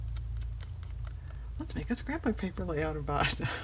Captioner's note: laughs